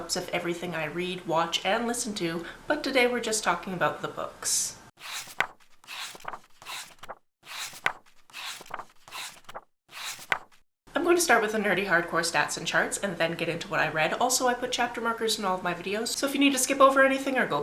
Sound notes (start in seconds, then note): 5.0 page turning